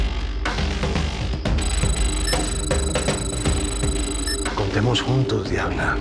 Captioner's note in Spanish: Sonido del temporizador